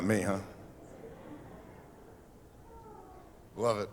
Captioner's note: laughter